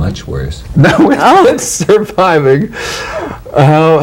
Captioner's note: laughing